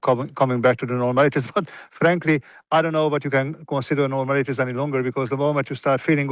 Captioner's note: laughs